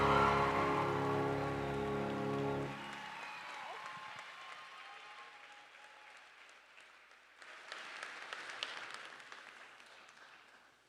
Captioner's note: cheering and applause